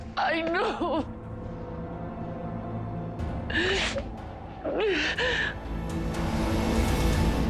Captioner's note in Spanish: Sollozos